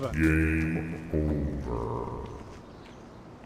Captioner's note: sound effect voice "Game Over"